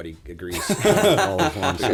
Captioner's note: laughter